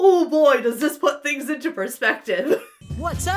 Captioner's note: chuckles; militant music